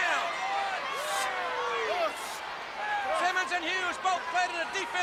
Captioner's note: crowd chatter